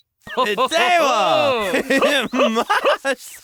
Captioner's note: both laugh